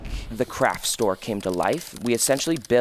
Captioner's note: computer keys clicking